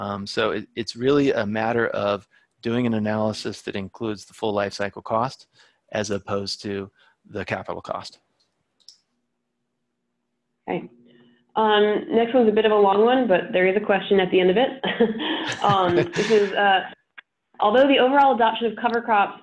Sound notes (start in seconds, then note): 15.3 laughs